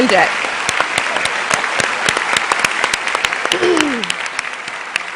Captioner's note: cheers and applause